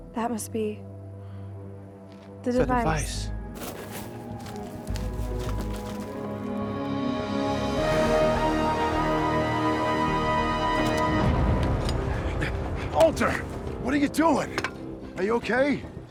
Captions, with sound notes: That must be the device. - The device. (intense music) (Walter panting) - Walter! What are you doing? Are you okay?